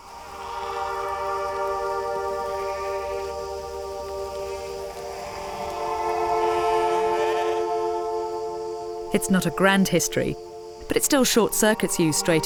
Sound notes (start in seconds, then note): 0.7 sheep bleating; 0.7 somber music